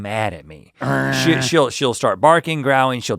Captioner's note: Link growling